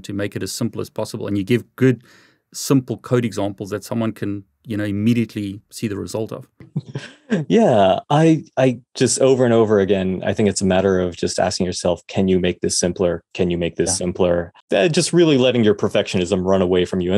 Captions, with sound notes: to make it as simple as possible. And you give good, simple code examples that someone can immediately see the result of. (laughs) - Yeah, I just over and over again, I think it's a matter of just asking yourself, can you make this simpler? Can you make this simpler? Just really letting your perfectionism run away from you.